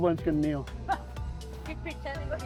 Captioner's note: crowd laughing